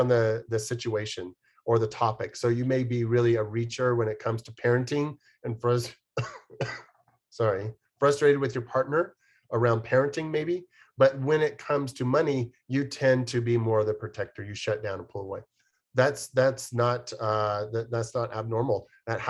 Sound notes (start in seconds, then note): 6.1 coughs